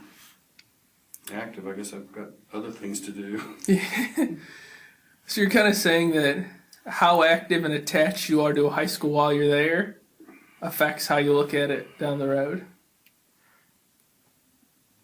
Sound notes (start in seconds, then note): 3.4 laughs; 3.4 both laugh